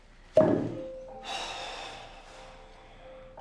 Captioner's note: sigh